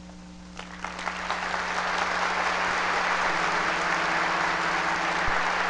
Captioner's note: audience applause